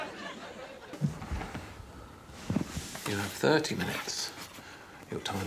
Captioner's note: laughter